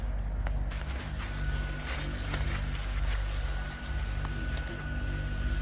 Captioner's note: leaves crunching